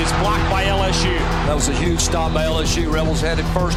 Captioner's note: voiceover